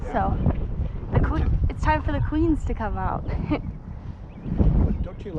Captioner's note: laughs